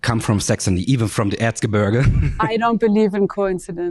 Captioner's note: chuckles